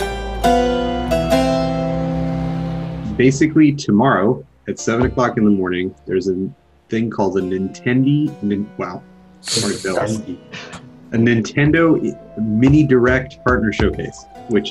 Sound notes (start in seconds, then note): 9.5 laughing